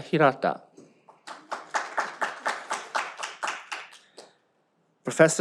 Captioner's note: audience applauds